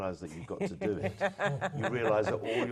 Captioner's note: laugh